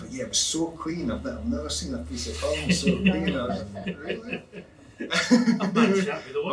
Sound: laughing

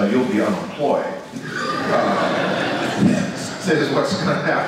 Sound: audience laughs

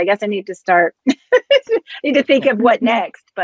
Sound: chuckles

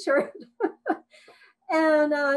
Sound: laughs

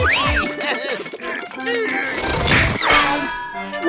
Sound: strained laugh; grunting

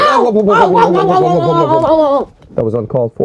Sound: Mario and Luigi warble

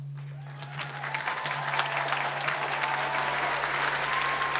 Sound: applause

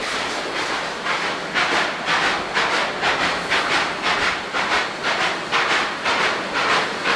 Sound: chugging

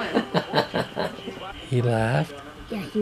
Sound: laughing

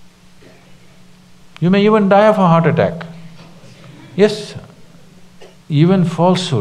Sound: few laugh

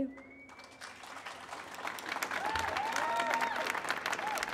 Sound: applauding

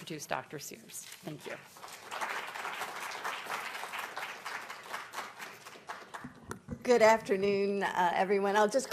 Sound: applause

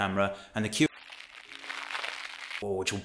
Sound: crackling

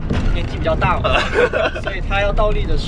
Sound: laughing

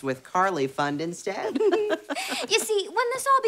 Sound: laughing

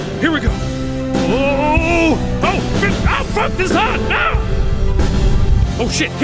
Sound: yells

